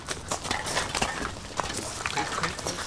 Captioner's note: cans jangling